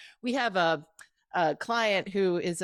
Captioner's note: none